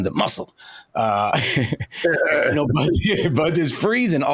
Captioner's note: laughing